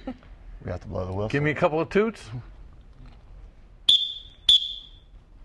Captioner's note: whistle blowing